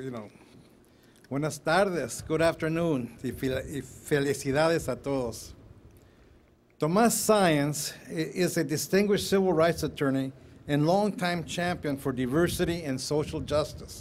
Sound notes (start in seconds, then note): 2.5 speaking in Foreign Language